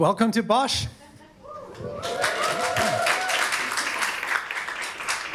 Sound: audience applauding

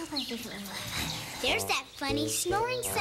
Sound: snore snore

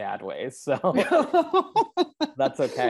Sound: both laughing

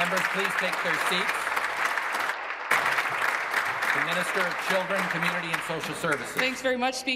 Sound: applause

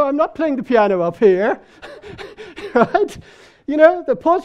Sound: man laughing

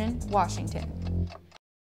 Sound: bass guitar playing; clock ticking

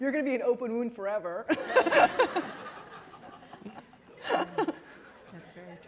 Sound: laughter

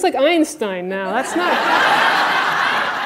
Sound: audience laughter

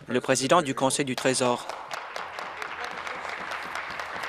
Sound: applause

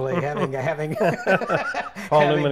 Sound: laughs

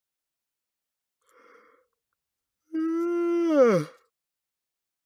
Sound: yawning

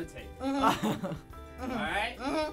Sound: chuckles

